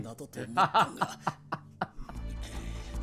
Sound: laughs

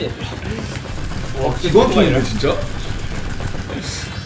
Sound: rat-a-tat-tat

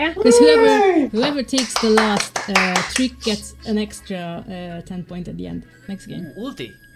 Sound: clapping

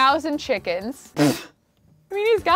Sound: blows raspberry

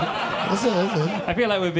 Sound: audience laughing

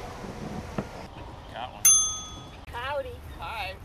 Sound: ding

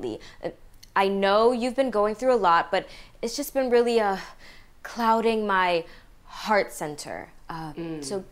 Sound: deep breathing

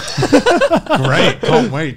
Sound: laughing

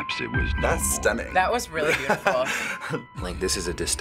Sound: laughs

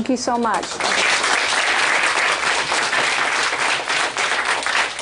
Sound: applause

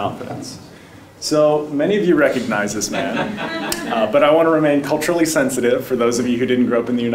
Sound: laugh

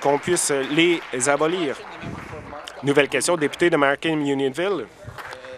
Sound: applause

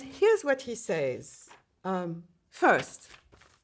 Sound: paper rustling

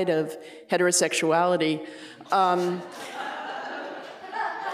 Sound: laughter

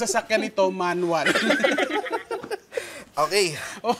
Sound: laughter

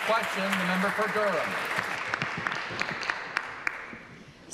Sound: applause

